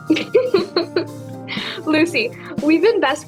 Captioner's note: ana laughs more